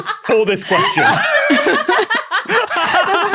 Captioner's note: group laughing